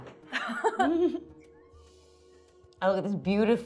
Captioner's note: laughing